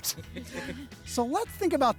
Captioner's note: crew laughs